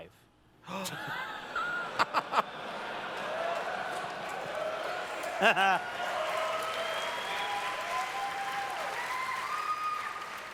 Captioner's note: audience cheers